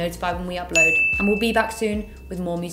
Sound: bell rings

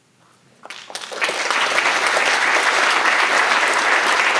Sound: audience applauds

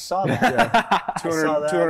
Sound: laughter

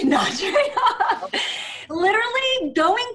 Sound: Jessica laughing

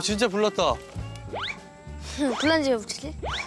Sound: blowing

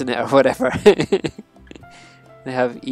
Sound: laughs

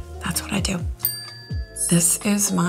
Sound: bell dings

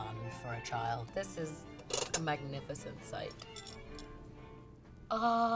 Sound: serving utensil clatters

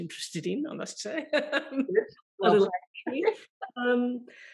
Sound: laughs

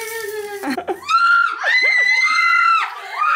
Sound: kiss accompanied by scream

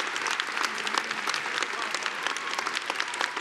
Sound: applause; cheering; applause

